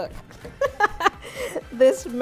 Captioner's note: laughs